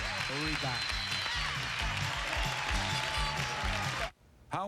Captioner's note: cheers and applause